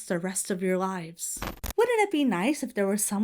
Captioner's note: audio glitches